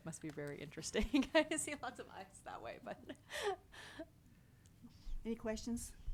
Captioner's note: laughs